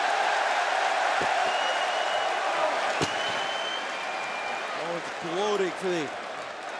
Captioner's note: crowd cheering